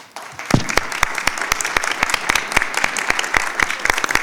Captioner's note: audience applauding